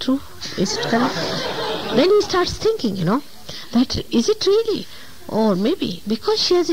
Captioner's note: laughter